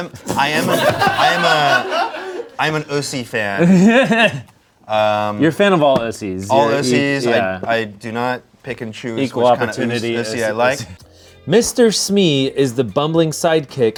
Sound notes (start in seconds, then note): 0.2 everyone laughs; 3.6 laughs